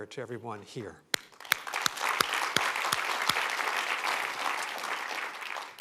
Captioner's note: applause